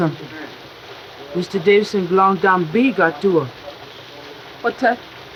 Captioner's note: speaks foreign language